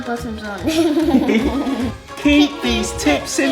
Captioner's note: laughing